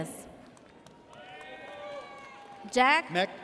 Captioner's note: audience cheers